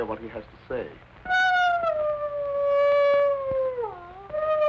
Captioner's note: wolf howling